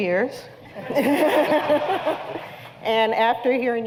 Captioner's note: laughter